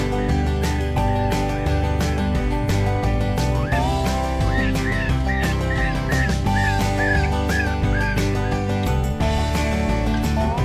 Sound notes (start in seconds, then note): 1.2 rabbit crying